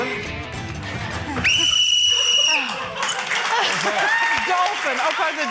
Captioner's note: blows whistle; applause